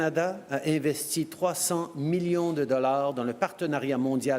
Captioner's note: speaking french